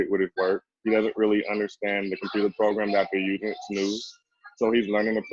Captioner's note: murmurs